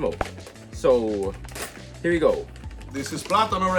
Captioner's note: pops; rips package